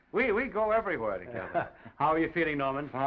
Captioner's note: Oliver laughs